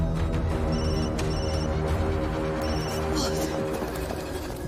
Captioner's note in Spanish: Suena el celular